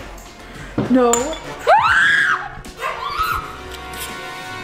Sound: screams; intense music

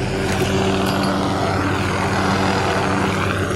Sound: metallic jingle of carabiner

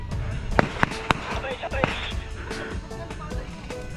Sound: radio

